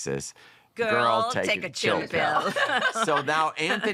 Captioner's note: laughter